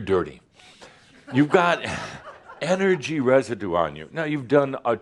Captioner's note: more giggles